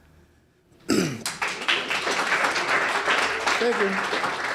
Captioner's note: audience clapping